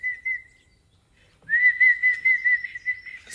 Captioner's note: whistling continues